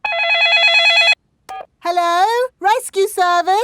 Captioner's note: dialing; cell phone ringing